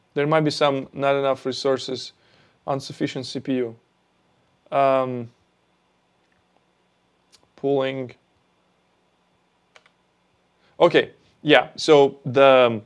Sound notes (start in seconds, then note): none